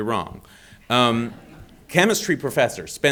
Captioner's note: audience laughing